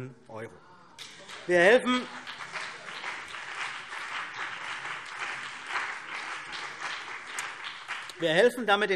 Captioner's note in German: Beifall CDU und BÜNDNIS 90/DIE GRÜNEN